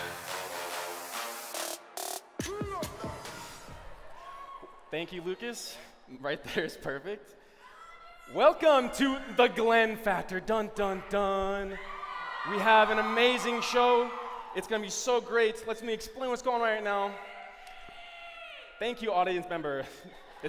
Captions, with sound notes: Thank you, Lucas. There? Right there is perfect. Welcome to the Glen Factor. Dun, dun, dun. We have an amazing show. It's going to be so great. Let me explain what's going on right now. [SHOUTING] Thank you, audience member.